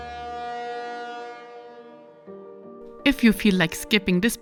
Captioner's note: boat beeping